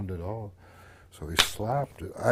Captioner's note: slap